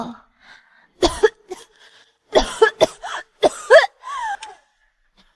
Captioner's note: cough, cough, cough